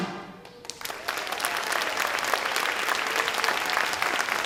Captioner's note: audience applauds